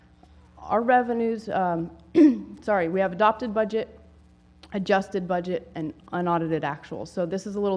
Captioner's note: cough